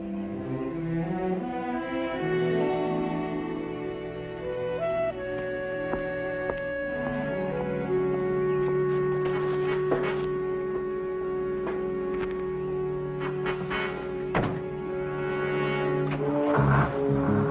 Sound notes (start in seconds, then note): 1.2 somber sad music; 5.7 footsteps thudding; 6.5 somber music; 14.2 door thuds close